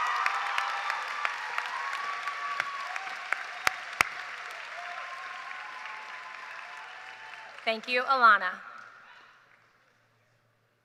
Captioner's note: cheers and applause